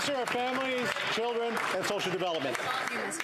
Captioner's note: some Applause